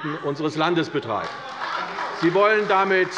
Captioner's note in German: Beifall bei der CDU